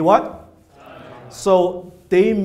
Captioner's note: audience responds